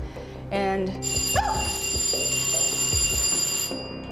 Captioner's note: bell rings, yelps; ringing stops